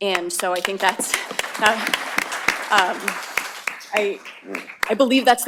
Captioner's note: applause